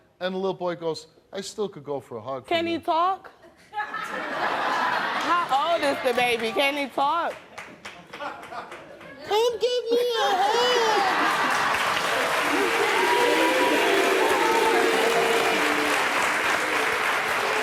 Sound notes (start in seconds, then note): 10.0 audience laughs; 11.0 audience clapping